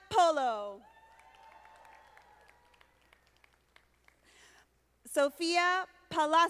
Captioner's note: audience applauding